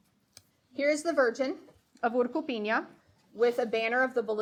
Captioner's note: speaking foreign language